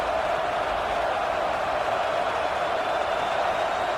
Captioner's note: crowd Noises